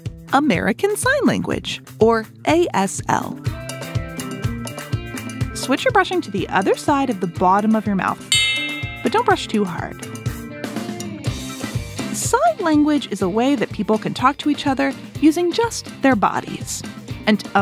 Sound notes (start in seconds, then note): 8.3 switch bell